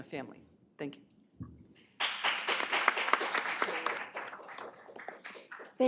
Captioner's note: applause